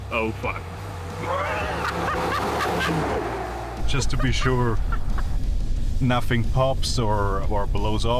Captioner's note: engine noise